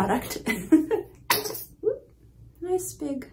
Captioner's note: cream splat sound